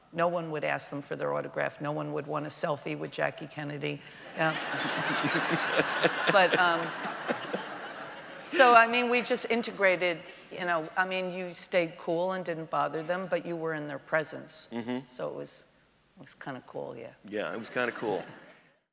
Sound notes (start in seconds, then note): 4.2 audience laughter